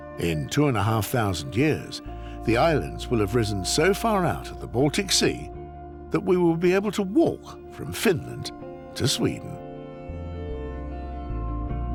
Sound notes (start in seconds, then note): none